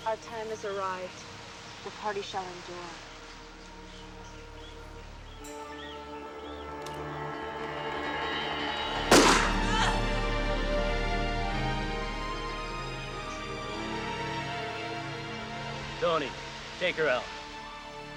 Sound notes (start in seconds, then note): 9.4 woman groaning